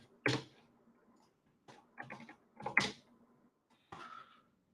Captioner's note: keyboard clacking